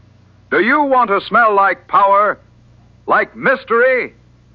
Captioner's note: none